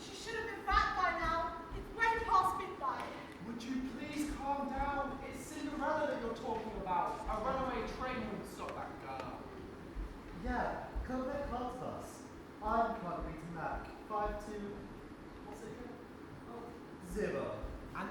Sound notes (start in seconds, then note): none